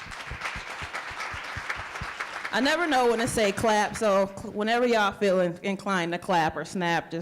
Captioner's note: applause